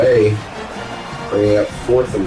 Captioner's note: crowd Noises